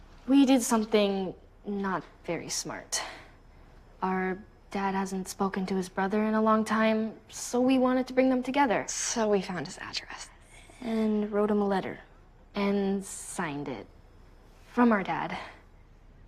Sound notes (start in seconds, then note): none